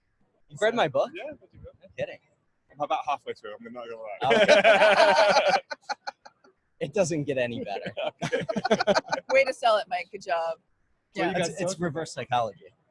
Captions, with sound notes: - You read my book? - Yeah. I'm about halfway through it, I'm not gonna lie. (laughing) - It doesn't get any better. - Way to sell it Mike, good job. - It's reverse psychology.